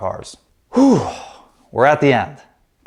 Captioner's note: sighs deeply